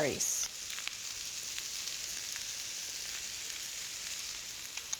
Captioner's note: sizzling